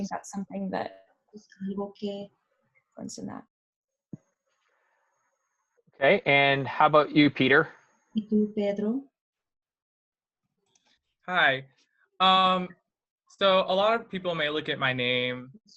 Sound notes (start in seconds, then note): 8.2 foreign language